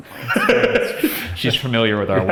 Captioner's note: laughs